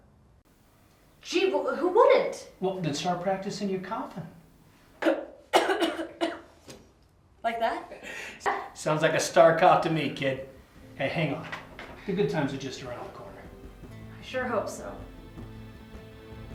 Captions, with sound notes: - Gee, who wouldn't. - Well, then start practicing your coughing. - (coughing) Like that? - Sounds like a star cough to me, kid. Hey, hang on. (gentle guitar music) The good times are just around the corner. - I sure hope so.